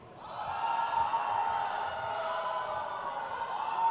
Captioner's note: crowd cheers